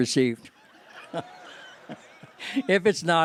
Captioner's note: laughter